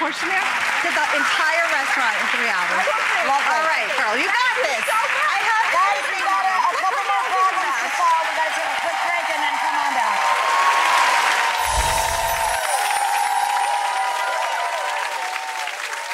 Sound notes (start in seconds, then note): 2.7 audience applauding; 10.2 audience applauding; 11.6 bright chimes tinkling